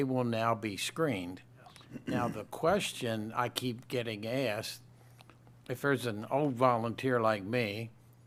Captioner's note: clears throat